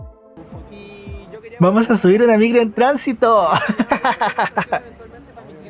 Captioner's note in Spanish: risas